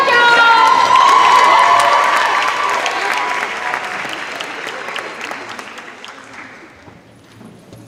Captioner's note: cheers and applause